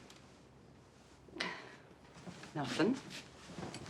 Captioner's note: sighing